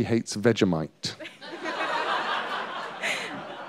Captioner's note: laughter